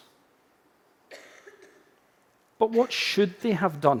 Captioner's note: audience member coughing